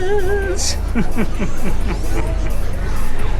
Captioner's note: laughs